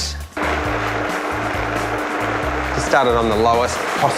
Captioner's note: whirring